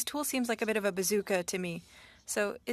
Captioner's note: speaking French